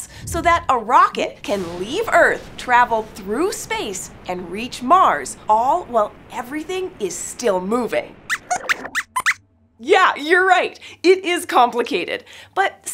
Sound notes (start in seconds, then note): 8.2 squeaks squeaks